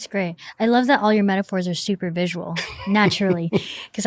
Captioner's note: laughter